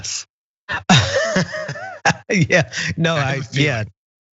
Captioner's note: laugh